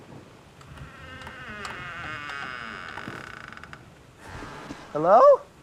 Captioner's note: door creaks open